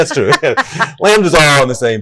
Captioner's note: laughing